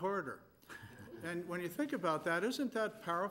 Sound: scattered laughing

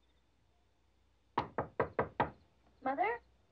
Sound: knocking

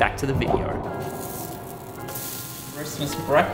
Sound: griddle sizzling

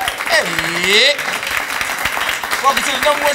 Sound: applause

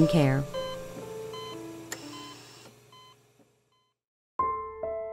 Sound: monitor beeping

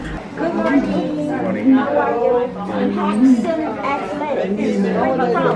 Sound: people talking in lobby

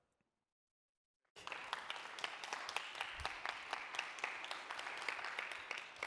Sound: applause

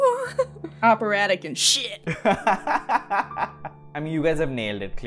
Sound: laughter

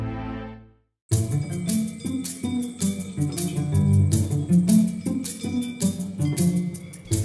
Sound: bells jangling; curious music

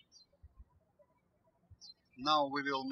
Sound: birds chirping

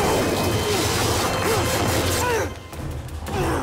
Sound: grunting

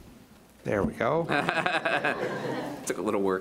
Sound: laughing

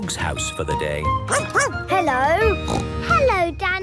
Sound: barking; snorting

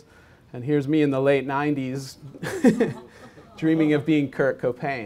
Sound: chuckles

